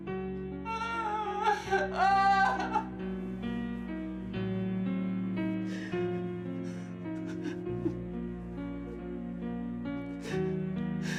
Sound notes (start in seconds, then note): 5.4 sullen music continues; 5.6 sobbing